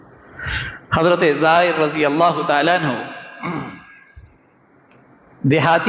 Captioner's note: clears his throat